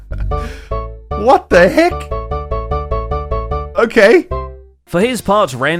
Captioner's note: chuckles; note blocks play